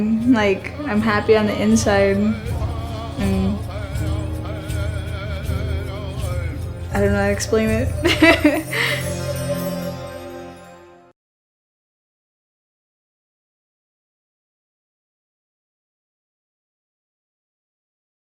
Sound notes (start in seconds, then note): 7.9 laughing